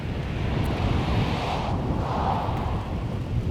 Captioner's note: car whooshing